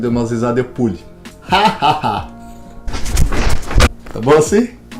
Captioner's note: laughing and jumping